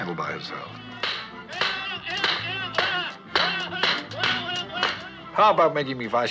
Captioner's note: shouting, Beating Continue; shouting